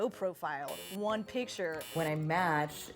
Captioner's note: buzzer